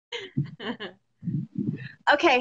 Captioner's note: laughs